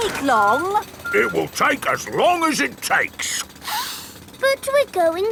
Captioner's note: sniffs